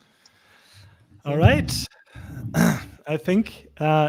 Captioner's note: clears throat